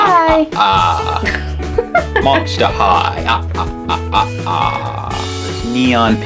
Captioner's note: evil Laugh; laughs